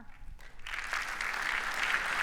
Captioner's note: audience applauding